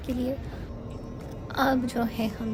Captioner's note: jet engine humming